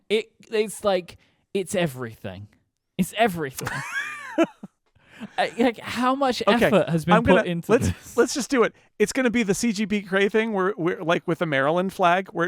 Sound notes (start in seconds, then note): 3.6 laughing